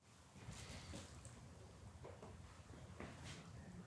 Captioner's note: shuffling feet